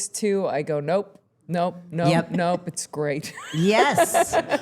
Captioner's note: chuckles